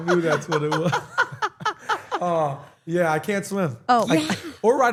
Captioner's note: laugh